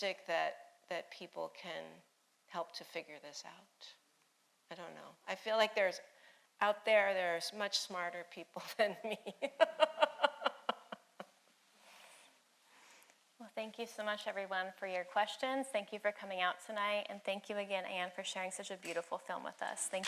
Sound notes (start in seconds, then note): 9.1 laughing